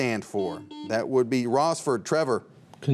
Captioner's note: buzzer beeps